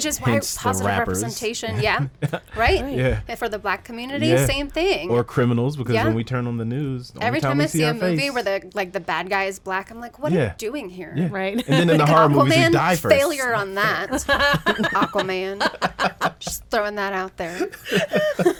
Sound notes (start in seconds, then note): 14.2 group laughs